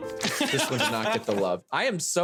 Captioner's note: laughing